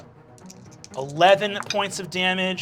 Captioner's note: rolls dice